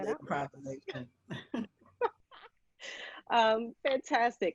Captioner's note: laughing